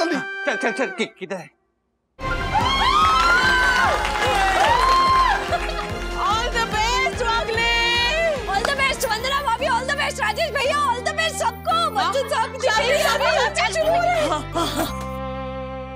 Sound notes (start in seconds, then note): 2.2 cheering